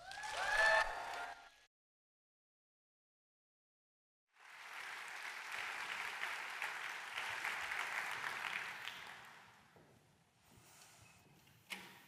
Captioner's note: applause